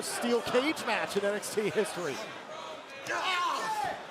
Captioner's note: crowd cheering